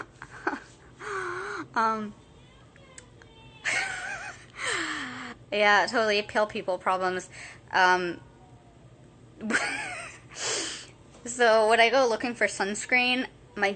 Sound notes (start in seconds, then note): 0.1 laughing; 9.4 laughing